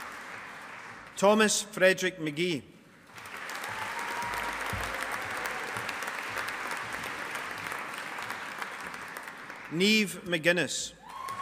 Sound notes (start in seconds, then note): 3.1 audience applauding